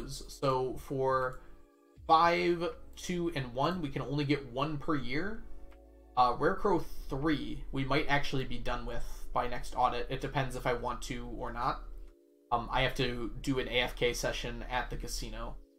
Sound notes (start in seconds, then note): none